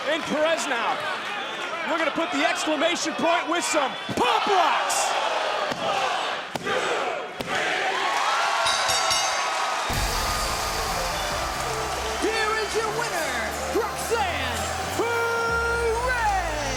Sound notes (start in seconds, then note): 8.6 bell rings; 9.6 audience applauds and cheers; 9.9 upbeat music